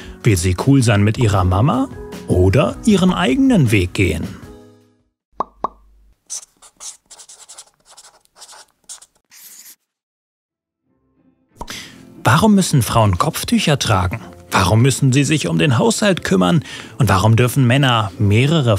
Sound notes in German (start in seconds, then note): 6.3 Ploppgeräusche, Stiftkritzeln